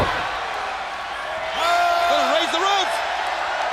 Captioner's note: crowd cheering